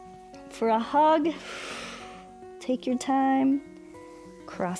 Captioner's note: exhales